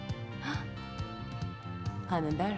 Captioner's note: gasps